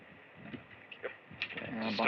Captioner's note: none